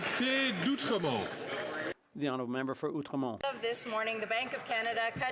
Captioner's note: some Applause